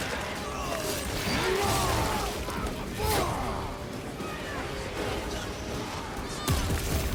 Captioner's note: game characters grunting and yelling